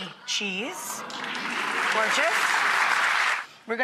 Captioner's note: audience applause